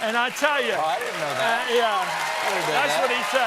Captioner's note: cheers and applause